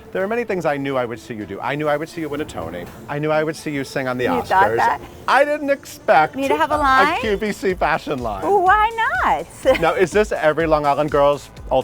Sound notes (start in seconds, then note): 8.5 laughing